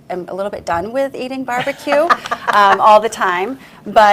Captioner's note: laughs loudly